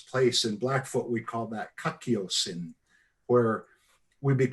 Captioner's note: speaks in foreign language